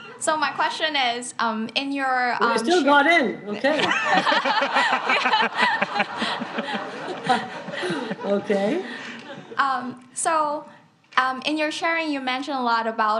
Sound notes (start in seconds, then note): 3.8 audience laughs